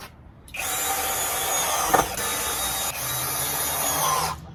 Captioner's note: drill drills